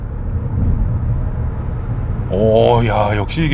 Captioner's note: acceleration sound